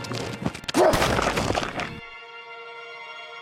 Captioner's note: bang